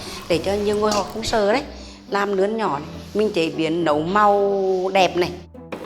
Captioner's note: speaking a foreign language